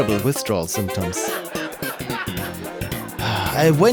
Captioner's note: laughter